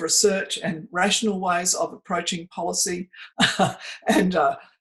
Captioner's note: chuckles